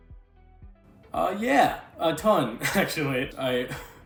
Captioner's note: laughing